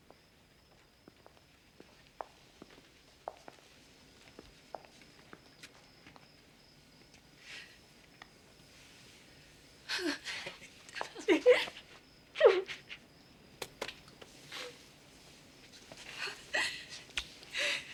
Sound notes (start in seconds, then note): 9.6 Bess gasping awake; 15.0 sobbing